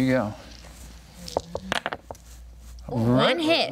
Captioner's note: dice clattering